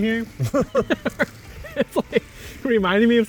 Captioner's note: both laughing